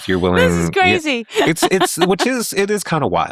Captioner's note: laughing